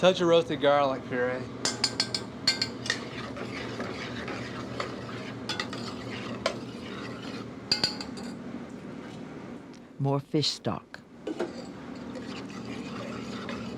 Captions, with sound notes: A touch of roasted garlic puree. - [Voiceover] More fish stock.